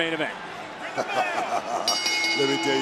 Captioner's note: laughs